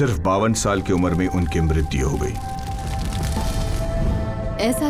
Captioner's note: pyre fire burning